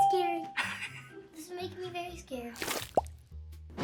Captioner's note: ding; React chuckles